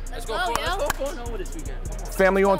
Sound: overlapping chattering

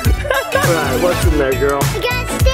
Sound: laughs

